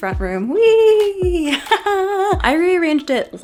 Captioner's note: laughs